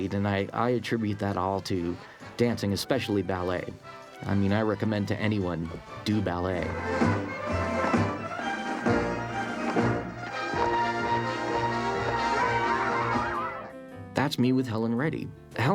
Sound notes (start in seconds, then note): 12.2 children exclaiming